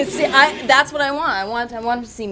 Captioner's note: chuckles